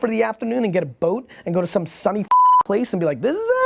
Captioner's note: beep